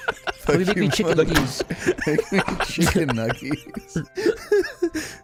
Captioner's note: laughter